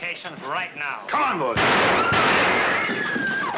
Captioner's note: firing twice